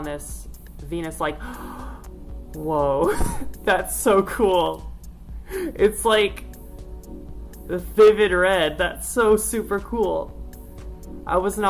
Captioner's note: gasps